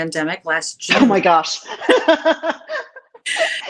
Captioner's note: laughs